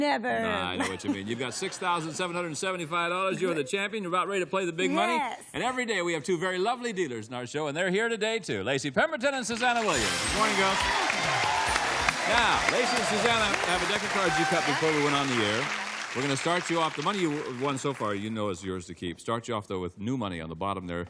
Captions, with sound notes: -No one ever has ugly children, do they? -Never! -No, I know what you mean. You've got $6,775, you're the champion. You about ready to play the Big Money? -Yes! -And every day we have two very lovely dealers on our show, and they're here today, too, Lacey Pemberton and Suzanna Williams. Good morning, girls! (applause) Now Lacey and Suzanna have a deck of cards you cut before we went on the air. -Yes. -We're going to start you off -- the money you've won so far, you know, is yours to keep.